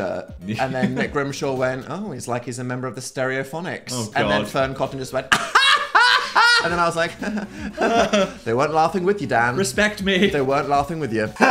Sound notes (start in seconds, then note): 0.5 laughs; 5.3 laughs nervously